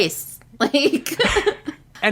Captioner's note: laughs